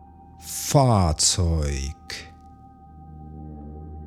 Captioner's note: german